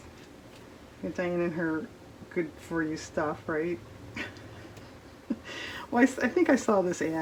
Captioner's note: laughs